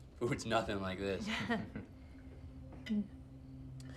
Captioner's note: Claire laughs